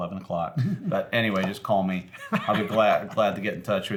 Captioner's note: laughs